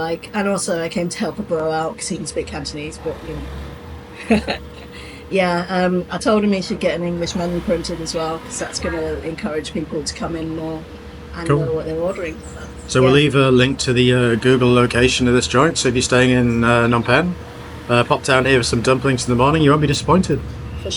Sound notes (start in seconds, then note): 4.0 laughs